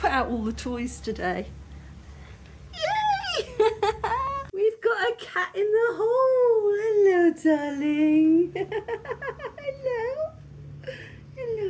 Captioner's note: laughing